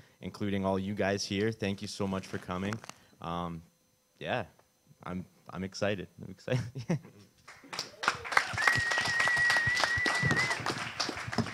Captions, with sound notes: including all you guys here – thank you so much for coming. Um, yeah. I'm, I'm excited. I'm excited, [chuckles] yeah. [audience applause]